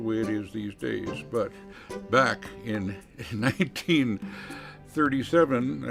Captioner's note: chuckles